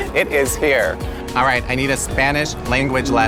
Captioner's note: chuckles